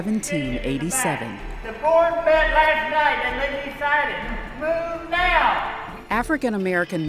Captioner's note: reenactor yells